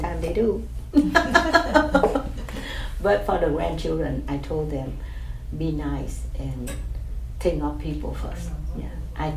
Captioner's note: laughs